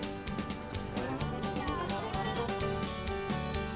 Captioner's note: fishermen cheering